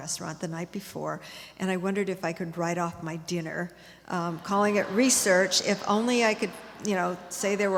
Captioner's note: audience laughter